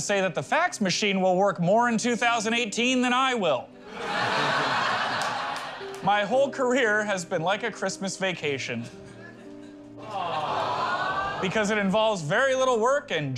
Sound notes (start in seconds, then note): 3.9 laughter; 10.0 crowd "awws"